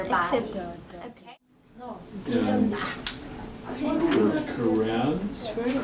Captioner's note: indistinct conversation